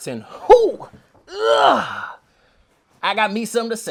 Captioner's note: groans while lifting a box